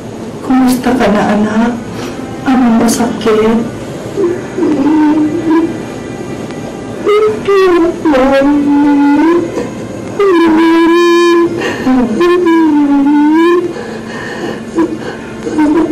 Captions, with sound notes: How are you, Son. What hurts? [Emman whimpering] Mommy? [crying] Mommy.